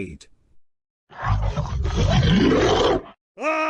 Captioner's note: monster Roar; shouting